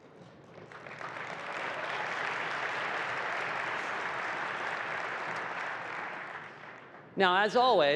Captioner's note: applause